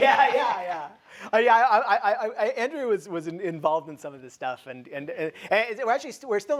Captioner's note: laughs